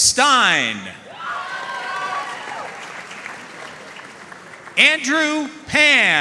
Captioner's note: audience cheering and applauding